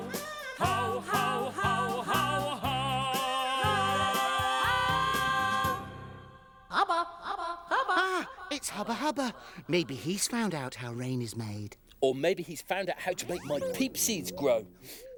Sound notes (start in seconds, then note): 6.7 echoing